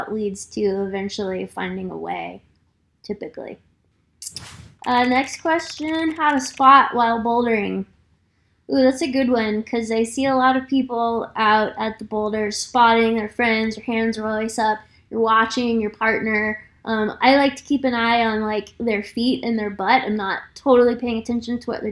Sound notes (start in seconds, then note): 4.7 keyboard clicking